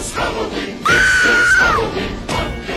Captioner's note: woman screams